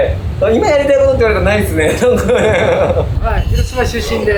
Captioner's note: laughs